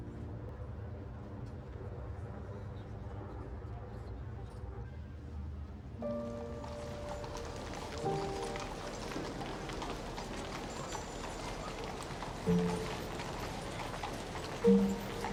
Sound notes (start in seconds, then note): 8.1 horse hooves clomping; 8.1 peaceful music